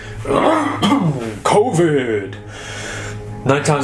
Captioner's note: coughing